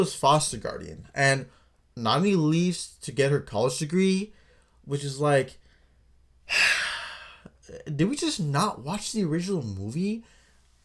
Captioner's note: sigh